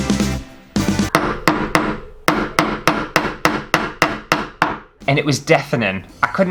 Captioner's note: hammer Sounds